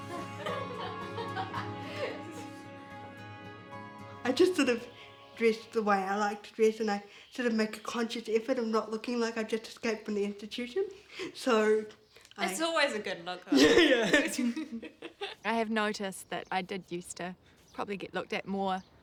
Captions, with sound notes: [Laughter] -I just sort of dress the way I like to dress. I make a conscious effort not to look like I just came from an institution -It still is a good look though -I have noticed that I did used to probably get looked at more